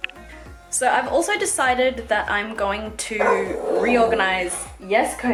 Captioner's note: Kobi barks